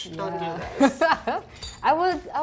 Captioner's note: chuckles